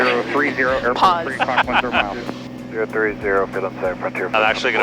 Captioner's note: laughs